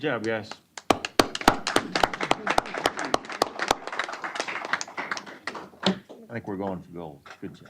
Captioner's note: applause